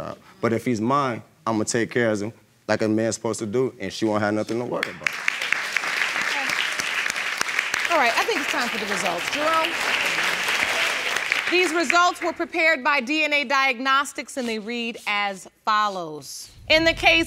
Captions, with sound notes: for her child. But if he's mine, I'm going to take care of him. Like a man's supposed to do and she won't have nothing to worry about. (AUDIENCE APPLAUDING) All right, I think it's time for the results. Jerome. These results were prepared by DNA Diagnostics and they read as follows.